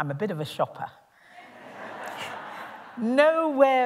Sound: laughter

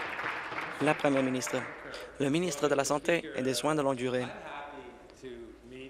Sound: applause

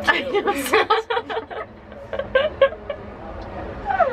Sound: laughs

